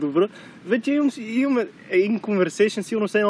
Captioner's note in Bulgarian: разговор